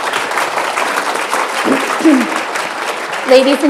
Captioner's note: applause